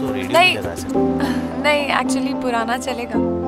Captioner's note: Gauravi laughs